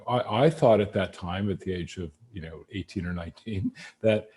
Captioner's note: laughs